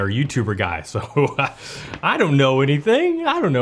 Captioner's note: laughs